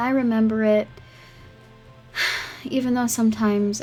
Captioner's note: sigh